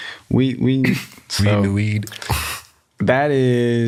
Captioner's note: chuckles